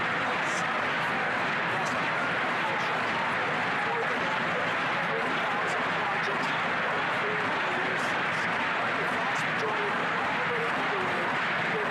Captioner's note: chanting